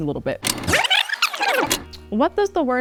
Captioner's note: tape rewinding